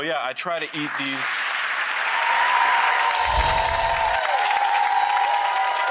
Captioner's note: audience clapping and cheering